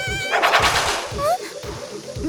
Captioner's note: gasp